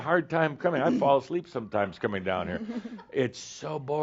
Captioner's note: she giggles